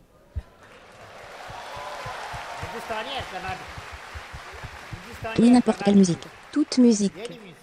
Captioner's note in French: public applaudissant